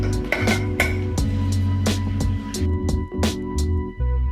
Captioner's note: mellow music; jar clicking